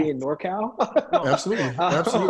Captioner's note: laughter